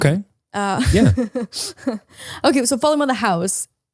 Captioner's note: laughs